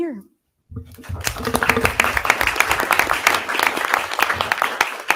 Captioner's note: audience applause